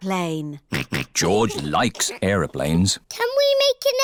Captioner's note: snorts